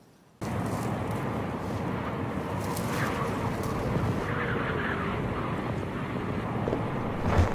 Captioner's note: wind howling